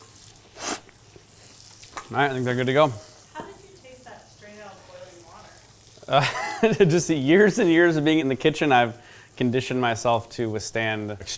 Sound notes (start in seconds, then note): 0.0 slurps; 6.1 laughs